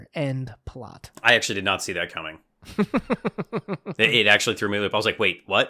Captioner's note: laughter